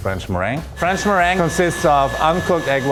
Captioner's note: blender hums